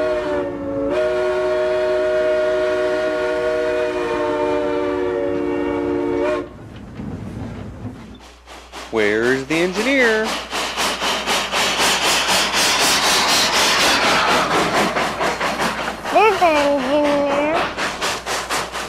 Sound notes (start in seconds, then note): 11.2 train whirs